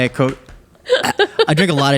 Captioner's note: burping